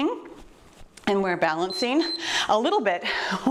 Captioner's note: timer beeps